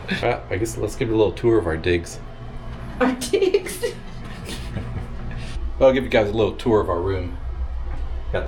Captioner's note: laugh